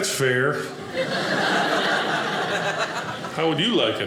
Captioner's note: audience laughing